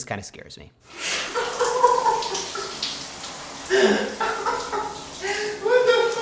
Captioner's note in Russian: звуки страданий и истерический смех